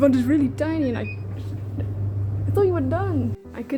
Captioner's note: appliance beeps, rumbles